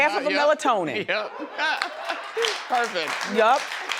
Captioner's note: audience chuckling